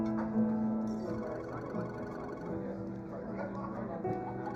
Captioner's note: phone ringing